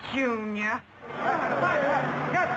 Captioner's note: crowd chattering